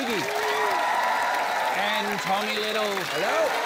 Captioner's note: cheering, applause